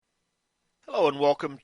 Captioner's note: silence